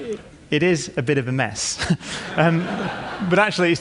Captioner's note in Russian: Смех